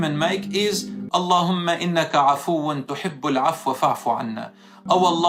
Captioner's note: Arabic